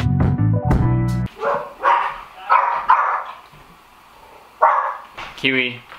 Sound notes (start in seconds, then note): 1.8 dog barking